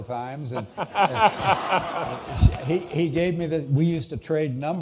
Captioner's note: all laughing